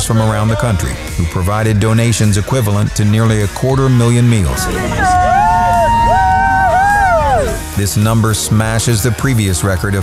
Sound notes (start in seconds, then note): 6.2 wooing